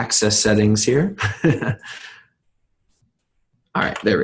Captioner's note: laughing